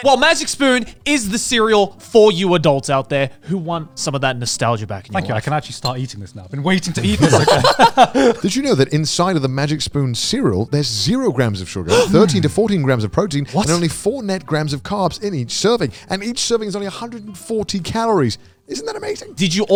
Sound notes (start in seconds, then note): 6.9 laughing